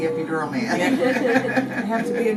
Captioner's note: all laughing